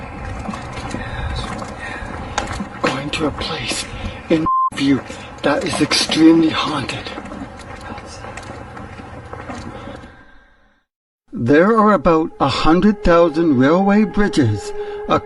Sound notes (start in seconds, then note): 4.4 beep